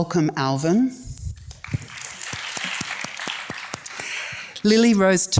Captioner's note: audience applauds